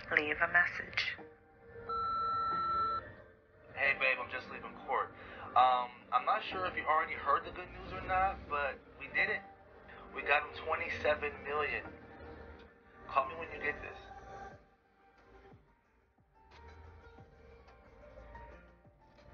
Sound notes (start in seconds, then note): 1.8 answering machine beep